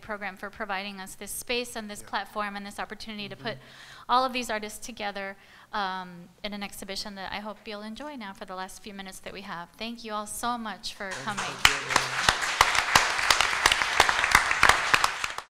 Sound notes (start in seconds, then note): 11.1 applause